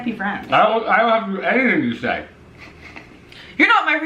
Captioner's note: laughs